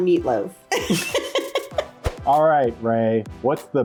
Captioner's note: laughs